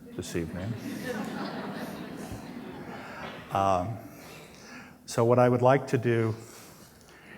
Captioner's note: laughter